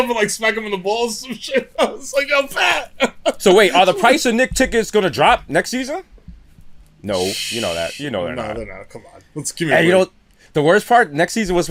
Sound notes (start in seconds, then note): 2.8 laughter